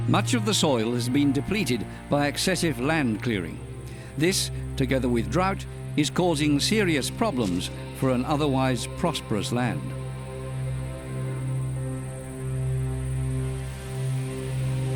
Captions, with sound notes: Much of the soil has been depleted by excessive land clearing. This, together with drought, is causing serious problems for an otherwise prosperous land. [cicadas]